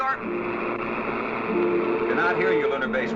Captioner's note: static buzzing